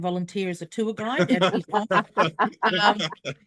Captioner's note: laughs